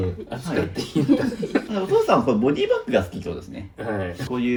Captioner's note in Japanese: 笑い